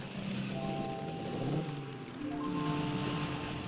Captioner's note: engines rumbling; gentle music